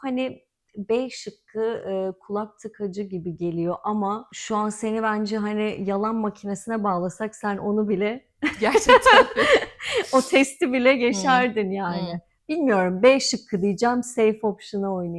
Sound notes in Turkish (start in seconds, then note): 8.4 kahkaha